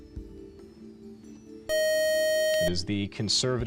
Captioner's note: time out buzzer